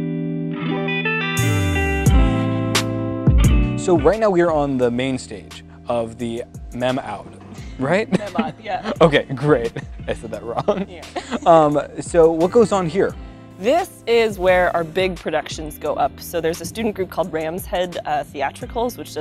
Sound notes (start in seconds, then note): 10.5 chuckles; 11.5 laughs